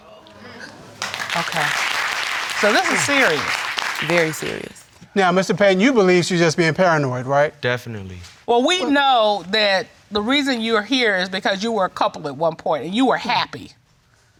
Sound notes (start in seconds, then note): 0.8 applause